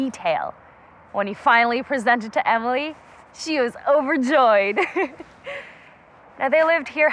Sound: laughter

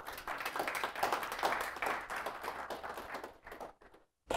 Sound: audience applauding

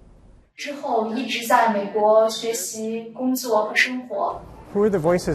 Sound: woman speaking world language

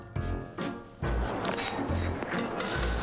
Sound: geese honking

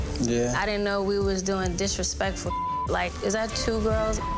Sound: beep

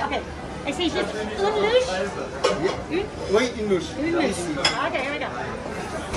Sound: speaking foreign language

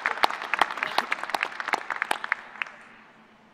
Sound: applause

